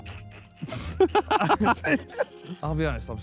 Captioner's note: Sidemen laugh